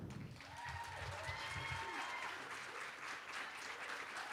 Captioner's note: cheering